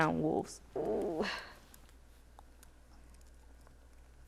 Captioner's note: groans